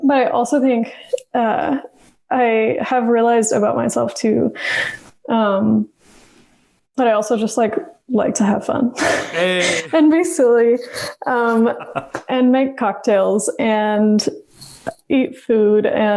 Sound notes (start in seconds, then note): 8.9 laughs